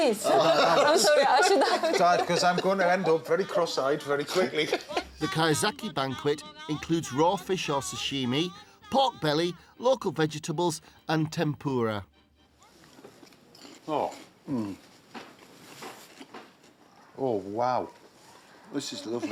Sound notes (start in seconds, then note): 0.2 laughter; 12.9 crunches; 16.3 thudding